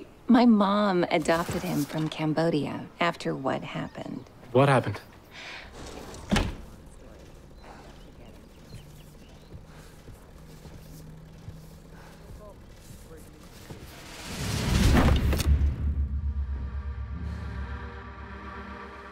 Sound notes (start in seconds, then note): 5.8 glass door thumping closed; 9.9 helicopter blades whirring in far distance; 15.4 eerie music